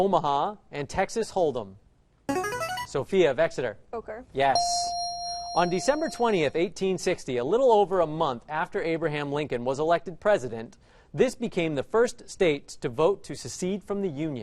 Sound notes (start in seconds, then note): 2.4 answer bell; 4.5 correct answer chime